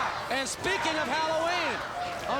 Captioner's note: crowd chatter